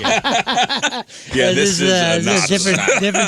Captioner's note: laughing